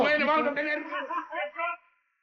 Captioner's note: laughs